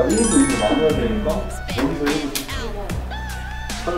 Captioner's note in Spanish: Bling bling